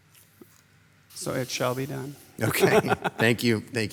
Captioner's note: laughs